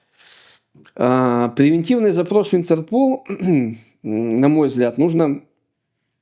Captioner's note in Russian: откашливается